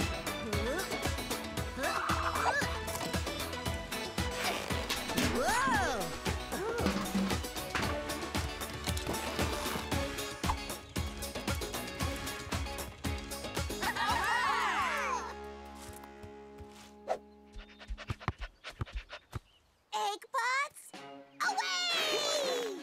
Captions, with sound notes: - Whoa! Ha! - Whoa! (all cheering) (panting) - Eggbots... away!